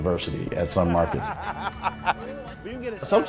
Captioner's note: chuckling